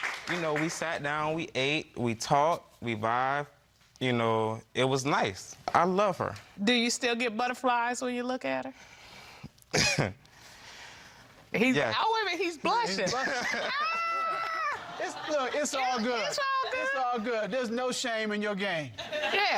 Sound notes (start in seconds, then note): 9.8 chuckling; 13.4 exclaiming